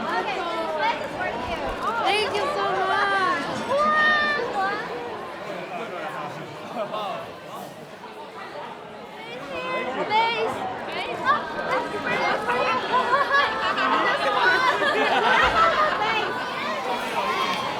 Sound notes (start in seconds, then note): 15.0 laughter